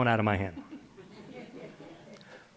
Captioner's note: laughter